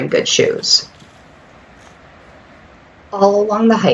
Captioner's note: distant water running